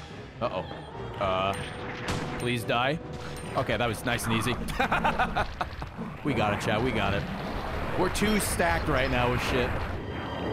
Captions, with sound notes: Uh oh, uh, please die. Okay, that was nice and easy. (laughs) We got it chat, we got it. We're too stacked right now with shit.